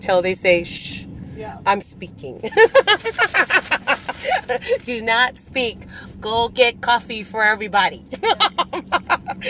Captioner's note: laughs